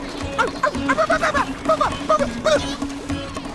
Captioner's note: Courage noises